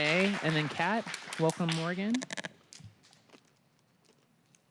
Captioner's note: applause